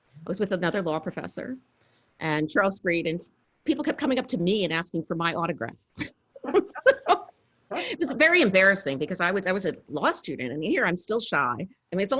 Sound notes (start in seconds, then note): 6.4 laughs